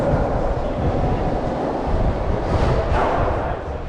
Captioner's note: continuously chatting